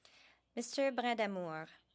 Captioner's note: speaking french